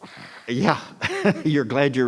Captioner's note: laughs